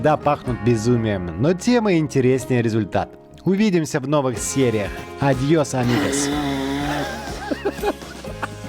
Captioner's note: laughter